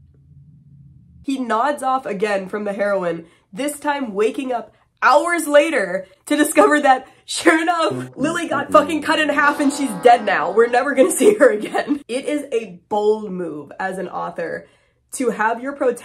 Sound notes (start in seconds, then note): 7.8 losing sound effect